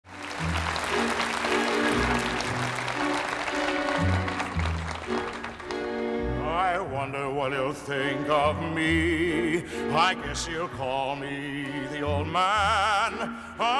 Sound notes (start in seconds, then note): 0.0 audience applauding